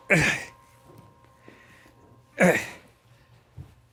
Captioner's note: Shane laughs